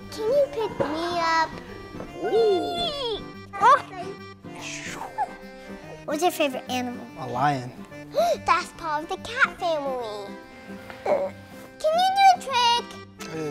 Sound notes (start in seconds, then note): 4.6 makes rocket noises; 8.1 gasps